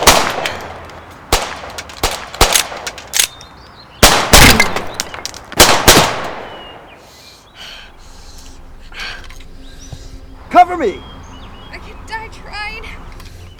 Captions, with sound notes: [Agent Milland wincing painfully] Cover me! I could die tryin'.